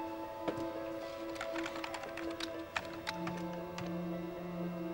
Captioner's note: keyboard tapping